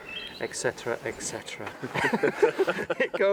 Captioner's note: laughter